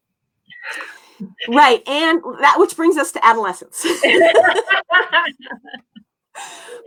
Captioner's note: laughter